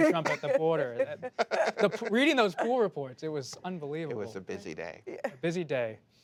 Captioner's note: laughter